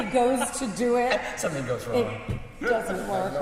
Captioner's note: laughs